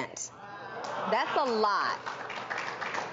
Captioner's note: applause